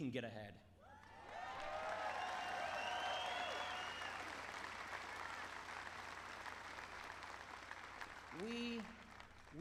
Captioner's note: applause